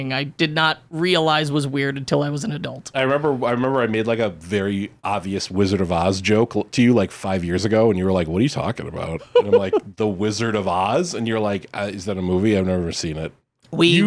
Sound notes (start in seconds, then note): 9.2 laughs